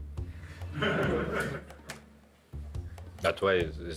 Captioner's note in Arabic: يضحك المراسلون